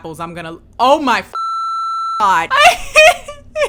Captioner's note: laughs